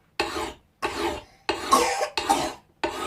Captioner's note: coughing